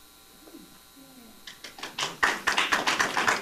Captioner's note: applause